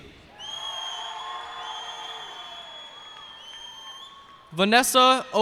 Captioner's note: cheers and applause